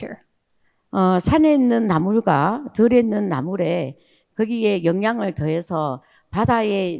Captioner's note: speaking in foreign language